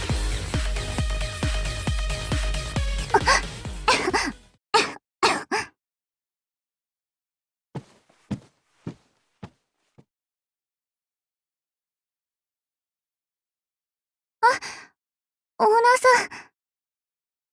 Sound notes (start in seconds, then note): 3.8 coughing; 4.0 gasp